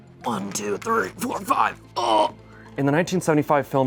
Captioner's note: tense string music; grunts